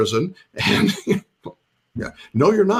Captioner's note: laughs